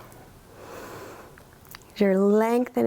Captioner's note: inhales